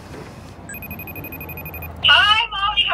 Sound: phone Ringing

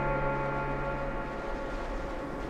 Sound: waves lapping

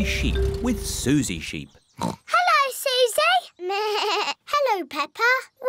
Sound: oinks; bleats

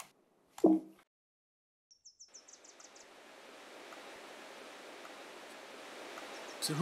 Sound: forest din

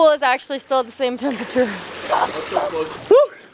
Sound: chuckling

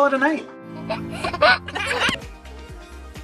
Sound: baby giggling; upbeat music

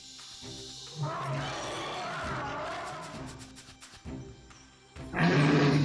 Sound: dinosaur bellowing; dinosaur booming

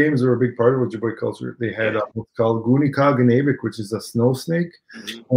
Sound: speaking Ojibwe

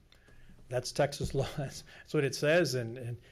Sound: chuckles

